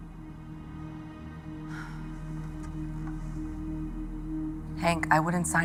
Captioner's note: sighs